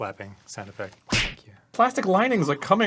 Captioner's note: slap sound